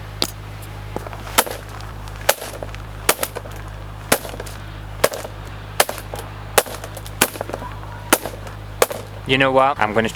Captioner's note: whipping Sounds